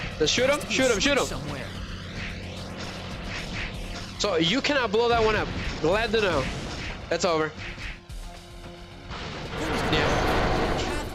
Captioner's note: groaning